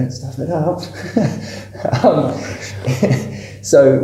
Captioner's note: laughter